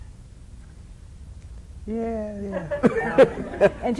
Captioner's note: laughs